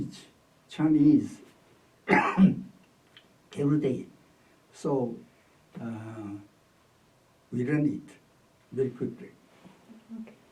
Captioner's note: coughs